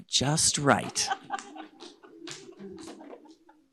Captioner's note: audience laughing